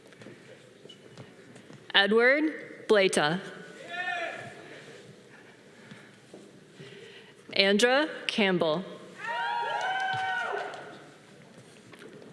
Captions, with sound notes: Edward Plata. (audience cheering) Andrew Campbell. (audience applause)